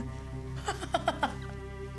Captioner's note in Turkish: Gülüyor